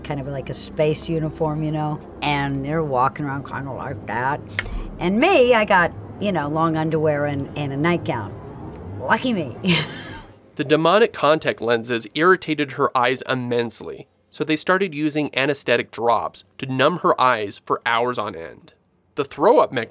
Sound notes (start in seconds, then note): 9.6 laughs